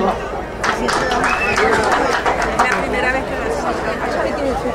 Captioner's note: crowd applauding